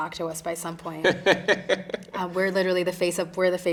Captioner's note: interviewer chuckling